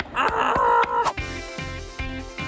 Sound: pounding; screaming; upbeat music

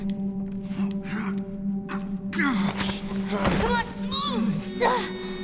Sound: Joel moans in pain; somber music

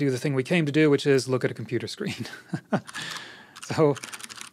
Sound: laughs

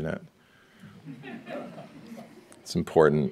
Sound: audience laughing

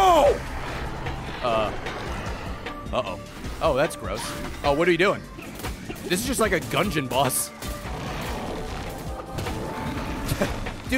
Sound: laughs

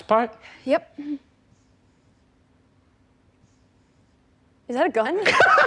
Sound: heavy silence; laughter in background

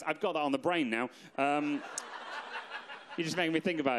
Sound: audience laughs

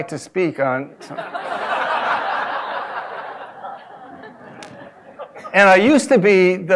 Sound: laugh

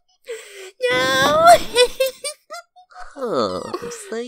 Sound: giggles

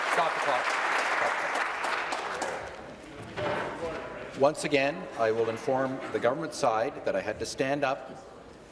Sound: applause

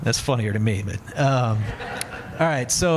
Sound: audience laughing

